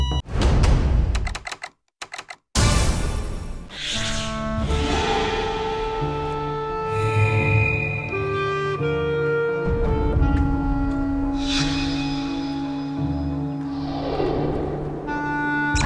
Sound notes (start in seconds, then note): 9.9 determined footsteps